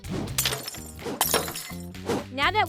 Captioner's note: lively music; glass shattering